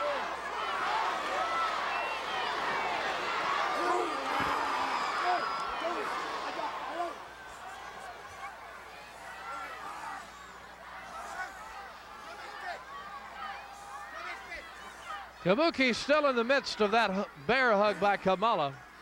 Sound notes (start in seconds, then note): 4.1 both grunting